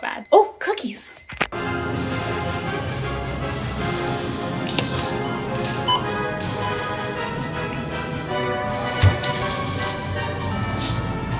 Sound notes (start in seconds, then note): 1.6 dramatic music; 5.8 scanner beeping; 7.3 dramatic music